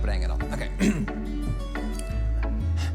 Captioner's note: clears throat